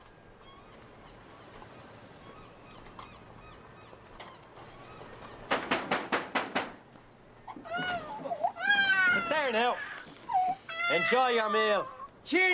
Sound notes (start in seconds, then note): 1.4 Sin diálogo audible; 7.7 Continúa el chillido